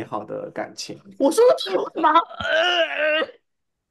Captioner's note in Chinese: 呕吐